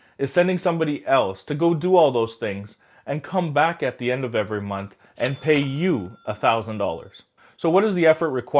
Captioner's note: cha-ching